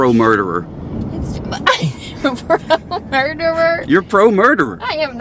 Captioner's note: laughs